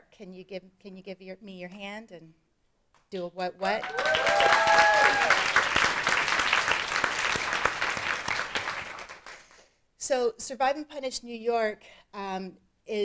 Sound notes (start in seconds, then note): 3.8 audience cheering; 3.8 audience applauding